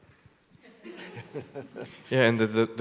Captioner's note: audience laughs